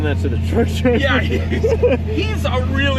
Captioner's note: all laugh